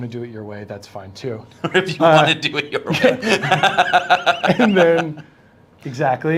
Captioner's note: laughs